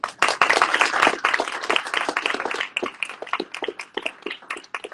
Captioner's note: audience cheering